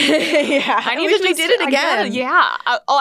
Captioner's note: laughs